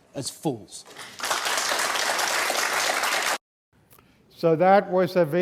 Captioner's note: audience applauding